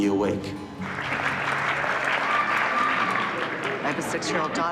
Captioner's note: applause